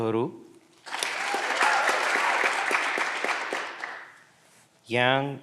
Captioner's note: candidates cheering; clapping continues